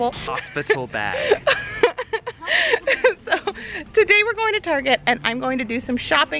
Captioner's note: laughing